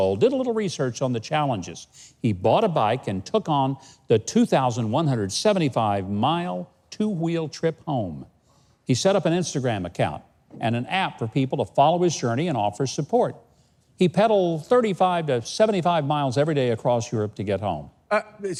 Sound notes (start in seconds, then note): none